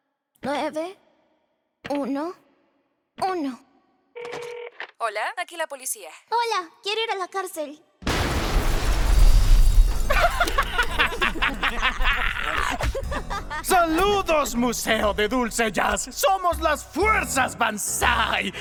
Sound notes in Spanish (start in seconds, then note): 8.0 ¡Explosiones!; 8.0 Sonidos de vidrios rompiéndose; 10.0 Risas malvadas